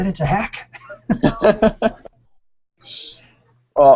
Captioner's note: laughter